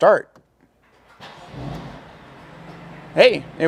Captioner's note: engine revs